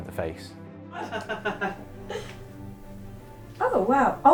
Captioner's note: laughs